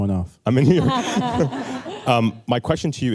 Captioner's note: laughter